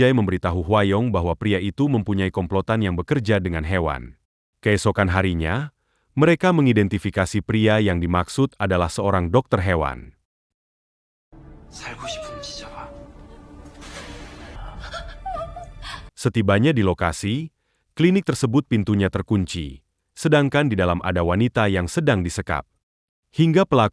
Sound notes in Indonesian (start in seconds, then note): 14.6 menangis